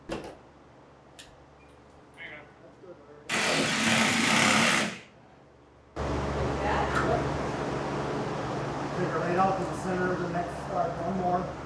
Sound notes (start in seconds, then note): 3.3 drill buzzing; 6.9 construction drowns out conversation